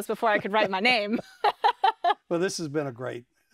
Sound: both laugh

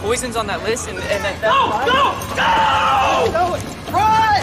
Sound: Jake screams

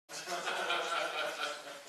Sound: laughter

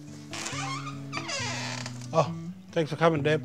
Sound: door creaking

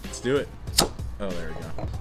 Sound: beer popping open

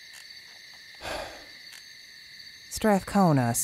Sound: Strathcona sighs

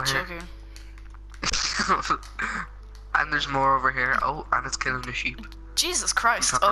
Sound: laughs

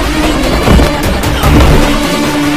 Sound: thud

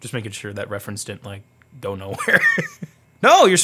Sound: laughs

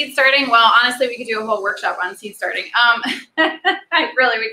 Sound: laughs

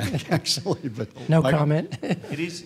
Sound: laughing

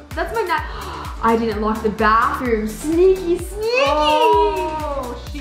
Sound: gasps

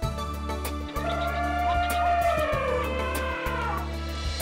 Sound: elephant trumpeting

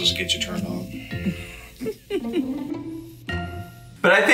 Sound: chuckles

